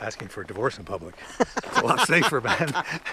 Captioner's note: laughs